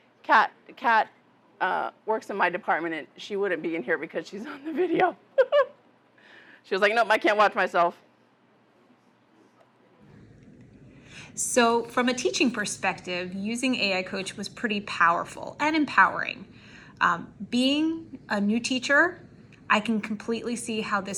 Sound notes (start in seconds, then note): 5.4 laughs